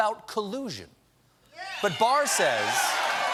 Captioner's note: cheers and applause